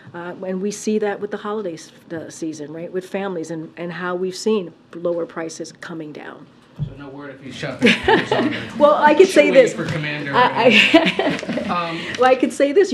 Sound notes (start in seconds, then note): 7.8 laughs; 10.6 laughter